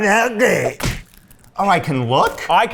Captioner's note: snack smashing